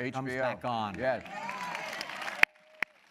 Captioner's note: applause